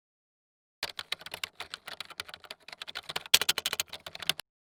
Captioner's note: keyboard clattering